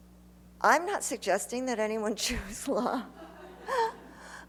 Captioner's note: laughter; laughs